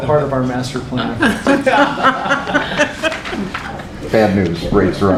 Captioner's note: laughter